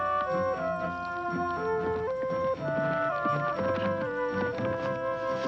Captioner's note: horse galloping